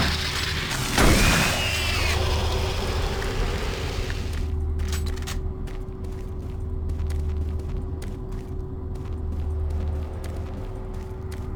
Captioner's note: gun fires; gun cocks